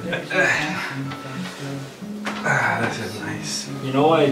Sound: chuckles; exclaims; groans

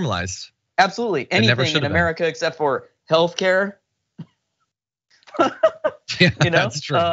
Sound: laugh

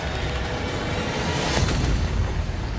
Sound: gunshot

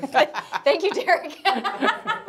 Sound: laughs

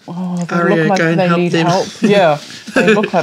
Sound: laughs

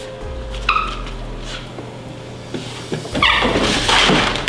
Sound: clogs squeaks; drawer thuds; dog food rattling; drawers thudding

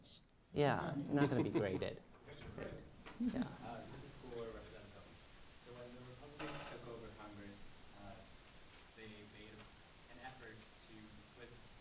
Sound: background laughter

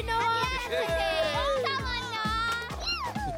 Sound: giggling; cheering; giggling

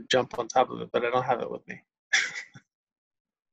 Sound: laughs

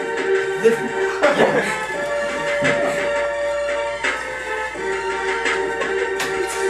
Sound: laughter

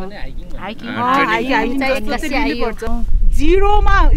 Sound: indistinct conversation

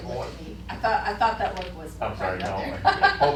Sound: laughing

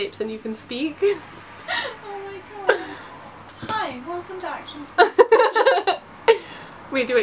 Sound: laughs

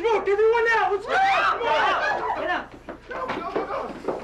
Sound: group yelling

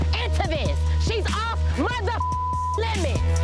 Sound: beep

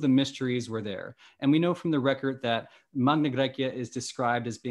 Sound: speaking greek

